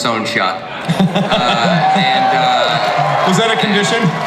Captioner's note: audience cheers